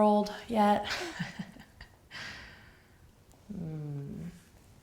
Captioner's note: laughs